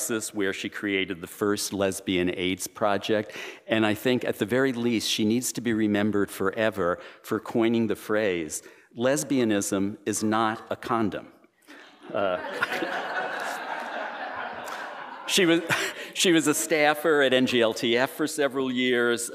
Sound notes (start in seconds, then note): 11.9 laughter